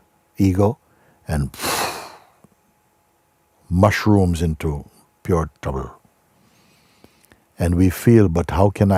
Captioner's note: kräftiges Ausatmen